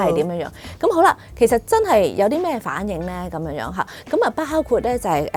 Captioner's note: female orgasm